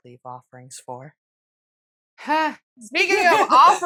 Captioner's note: buffering noise